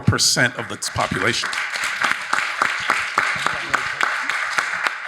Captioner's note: audience applauding